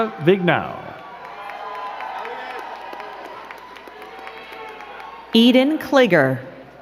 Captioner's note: crowd cheering and clapping